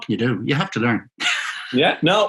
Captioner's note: laughing